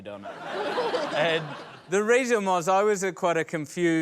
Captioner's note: laughter